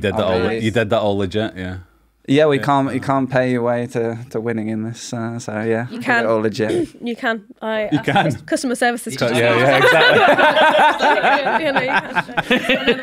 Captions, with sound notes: You did that all legit yeah? Yeah, yeah, yeah. You can't pay your way to the winning in this so yeah you can all again. You can. I got customer services to... Yeah. Yeah, *chuckle chuckle*